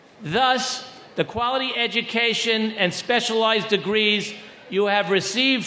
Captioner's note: none